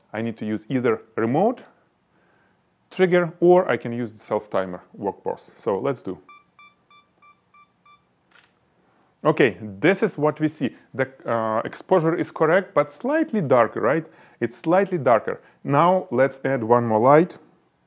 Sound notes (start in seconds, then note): 8.2 camera beeping; 8.2 camera snapping